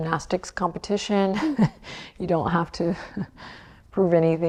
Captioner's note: chuckles